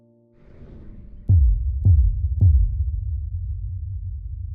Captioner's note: words booming